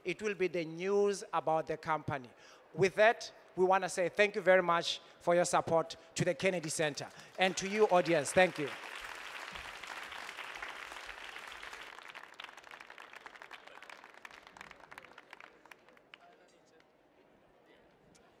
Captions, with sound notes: it will be the news about the company. With that, we want to say, thank you very much for your support to the Kennedy Center and to you audience. Thank you. (audience applauding)